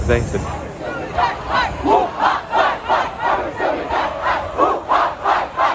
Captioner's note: chanting